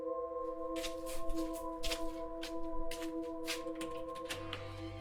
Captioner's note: footsteps plodding; door squeaking